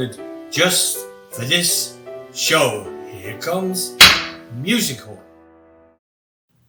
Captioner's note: gavel bangs